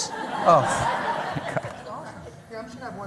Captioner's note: laughter